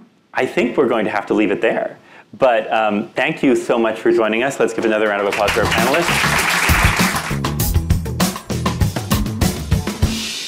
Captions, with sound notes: I think we're going to have to leave it there, but thank you so much for joining us. Let's give another round of applause for our panelists. (audience applauding) (upbeat music)